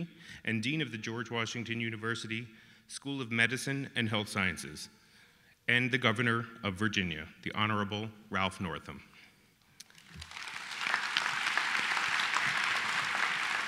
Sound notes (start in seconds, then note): 9.8 applause